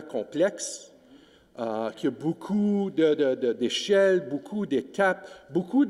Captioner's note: speaking French